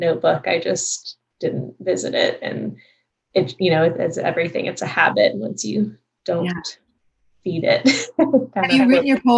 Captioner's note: laughs